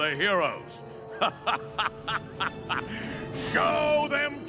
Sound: evil laughter

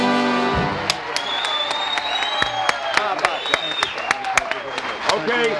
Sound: audience applause and cheers

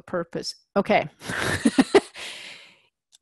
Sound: laugh

